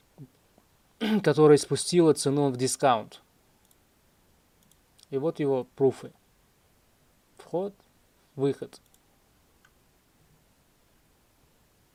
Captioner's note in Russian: откашливается